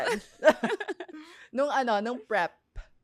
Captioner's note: laughs